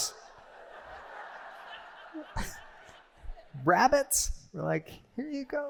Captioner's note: laughter